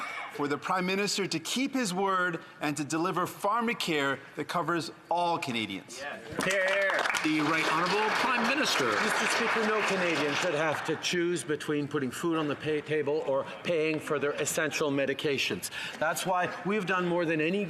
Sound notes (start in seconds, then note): 9.5 some Applause